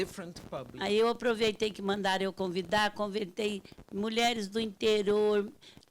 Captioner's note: speaking Portuguese